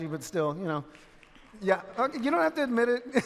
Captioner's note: few in audience cheer